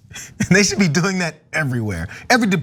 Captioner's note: laugh